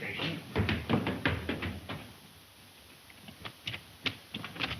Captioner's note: footsteps pattering